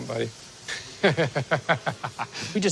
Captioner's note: laughs